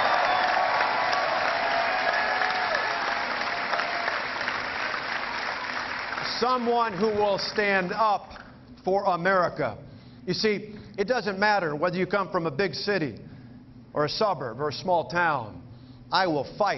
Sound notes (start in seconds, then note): 4.7 cheering